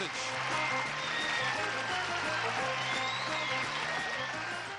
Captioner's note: applause